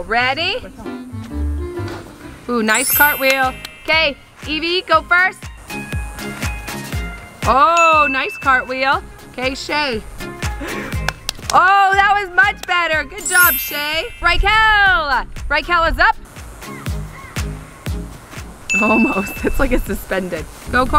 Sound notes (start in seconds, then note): 3.4 clapping; 10.4 gasps; 11.0 clapping